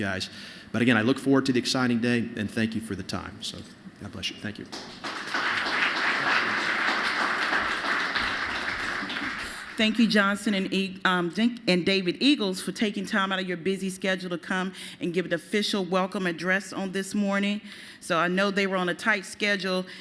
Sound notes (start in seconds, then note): 7.5 applause